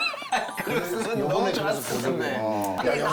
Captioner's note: laughs